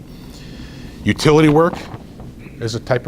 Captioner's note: rustles papers